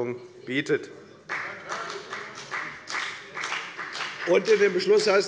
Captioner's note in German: Beifall bei der FDP